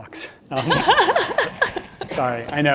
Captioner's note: laughs